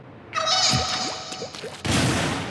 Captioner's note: Inkling Spirit cries out